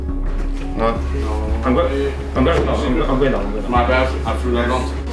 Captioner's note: people chattering indistinctly